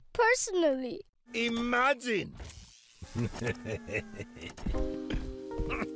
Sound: laughing; sad music

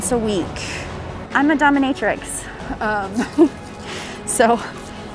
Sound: chuckles

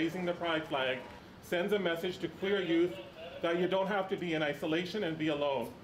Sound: cheers

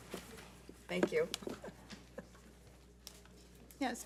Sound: laughs

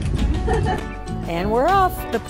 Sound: laughing

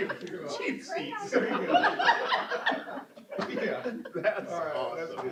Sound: laughter

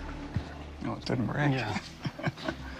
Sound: chuckles

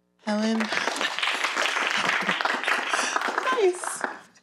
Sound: audience applauds

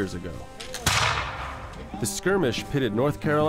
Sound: gunshots

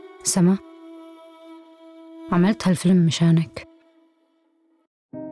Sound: speaking foreign language

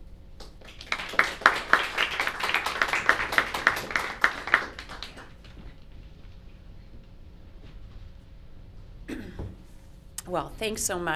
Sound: applause

